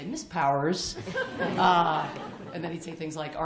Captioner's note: laughter